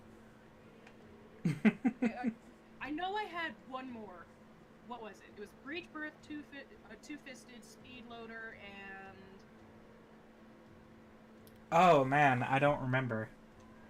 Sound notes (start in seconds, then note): 1.4 chuckling